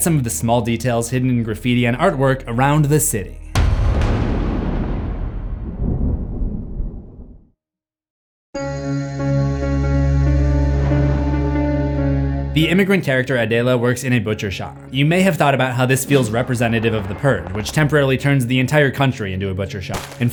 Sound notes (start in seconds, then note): 3.5 impact; 8.5 mysterious music